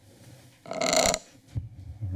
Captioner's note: mic rustling